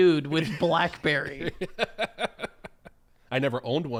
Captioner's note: laughs